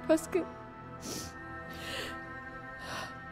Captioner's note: sniffs